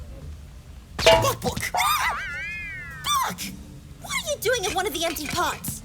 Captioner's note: yelps in surprise